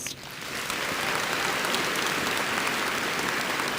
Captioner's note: audience applauds